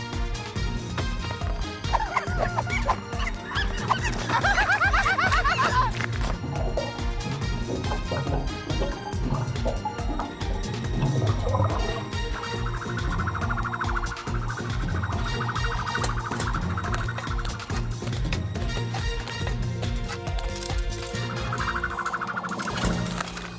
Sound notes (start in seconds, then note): 3.3 chittering; 9.4 liquid gushing